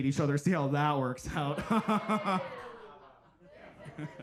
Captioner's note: laughs